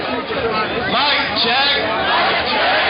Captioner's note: voiceover